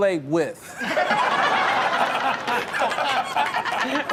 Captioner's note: everyone laughs